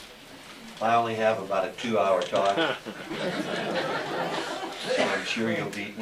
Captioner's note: audience Laughter